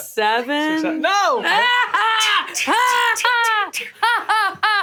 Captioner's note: laughing